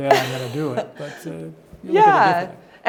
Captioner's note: laughs